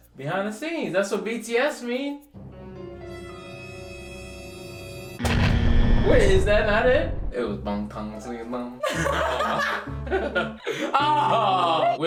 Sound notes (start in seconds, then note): 2.8 horror music; 5.2 explosion; 5.2 buzzer; 8.8 laughs loudly; 8.8 laughs